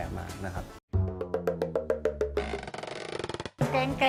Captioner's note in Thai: เสียงเอฟเฟกต์